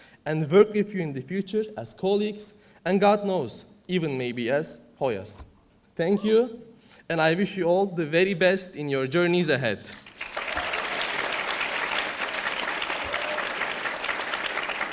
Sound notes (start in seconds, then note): 9.9 audience applauding